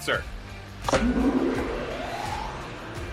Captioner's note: motors running